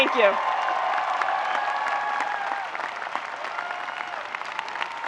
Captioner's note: people clapping